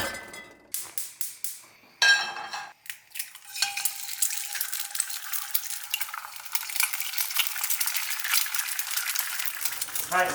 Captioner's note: frying food sound; metal clanking